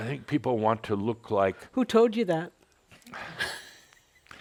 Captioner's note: she chuckles